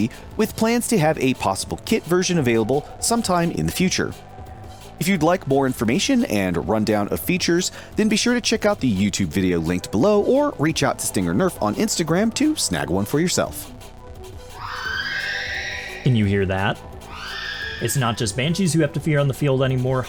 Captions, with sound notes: with plans to have a possible kit version available sometime in the future. If you'd like more information and rundown of features, then be sure to check out the YouTube video linked below, or reach out to Stinger Nerf on Instagram to snag one for yourself. [eerily familiar screaming noise] Can you hear that? [high pitched obscure Ep. 6 reference noise] It's not just banshees you have to fear on the field anymore;